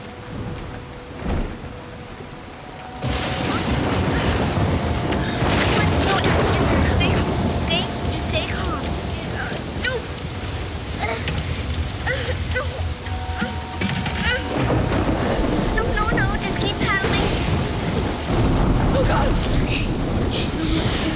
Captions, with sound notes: ( thunder ) I'M SCARED. JUST STAY CALM. NO, NO, NO. JUST KEEP PADDLING. OH, GOD. IT'S OKAY. IT'S OKAY.